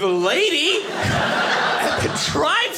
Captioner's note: audience laughing